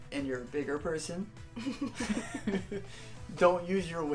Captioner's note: laughter